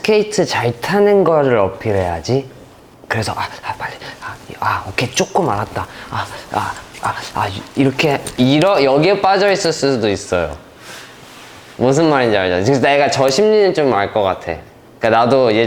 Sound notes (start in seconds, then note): 6.5 heavy breathing